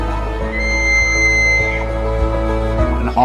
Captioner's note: elk call